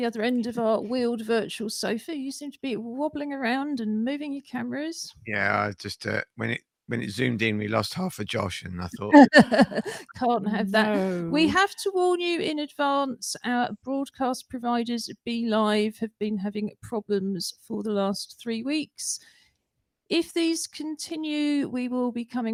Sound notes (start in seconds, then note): 9.0 laughter